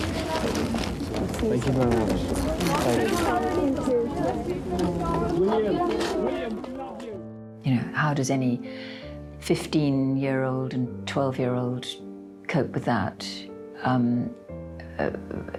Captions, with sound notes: - Thank you very much. Thank you. - You, too. (mourners chattering) - William, we love you! - You know, how does any 15-year-old and 12-year-old cope with that?